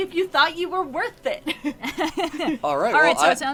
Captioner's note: laughs